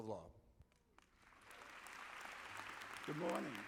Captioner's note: audience clapping